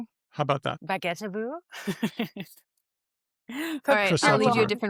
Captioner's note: laughs